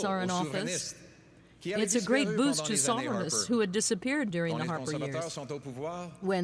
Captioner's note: speaking French